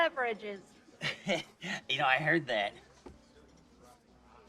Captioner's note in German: nervöses Lachen